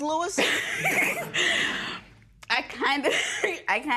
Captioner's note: laughs